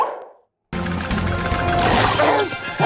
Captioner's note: shells chattering